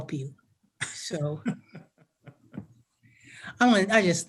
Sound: man laughs

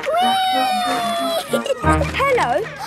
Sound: giggling

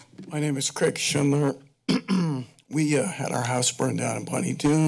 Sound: clears throat

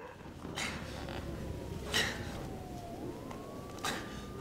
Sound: Ciez grunting

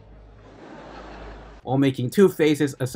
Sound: laughter

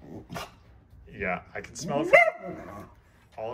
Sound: Oliver whines; Oliver barks

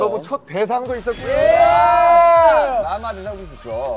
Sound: cheering

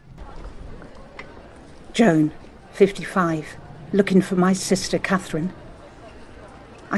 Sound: busy street noises

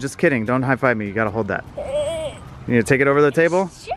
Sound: groans

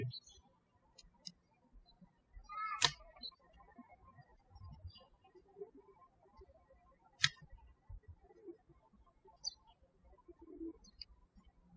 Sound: birds chirping

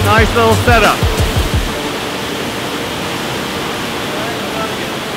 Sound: water rushing

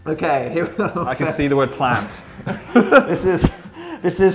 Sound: laughs

